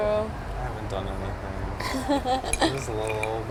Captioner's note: laughs